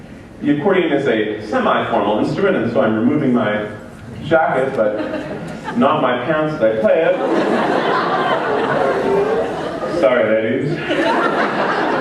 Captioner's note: laughter